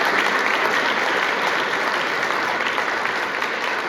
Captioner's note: applause